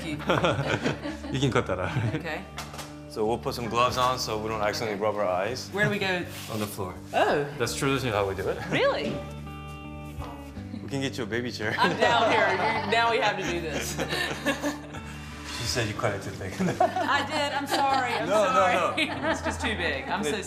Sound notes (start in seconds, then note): 13.4 all laughing